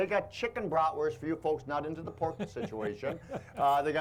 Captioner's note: chuckling